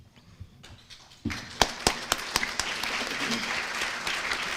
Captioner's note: applause